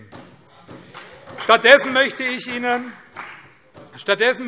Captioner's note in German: Vereinzelter Beifall CDU und SPD